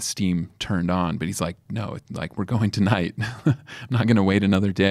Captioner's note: laughs